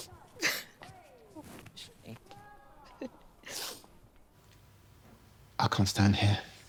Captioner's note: Grace chuckling